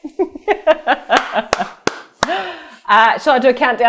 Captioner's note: clapping